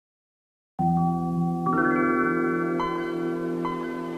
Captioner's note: Windows 95 start-up jingle chiming